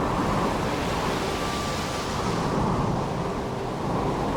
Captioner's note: sound of waves and wind